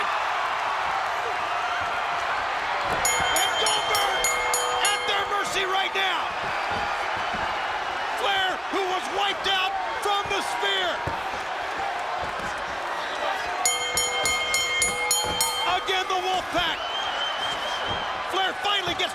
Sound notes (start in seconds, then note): 3.0 bell ringing; 13.6 bell ringing